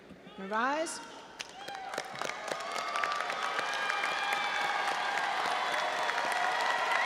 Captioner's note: audience applauding and cheering